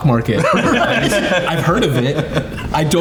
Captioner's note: everyone laughing